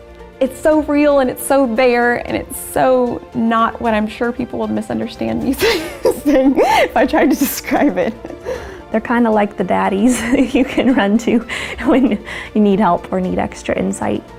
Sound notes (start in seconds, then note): 5.6 laughter; 10.1 chuckles